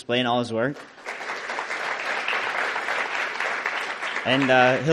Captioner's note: audience applauding